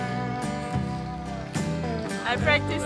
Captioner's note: laughing